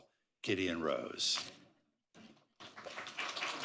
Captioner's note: applause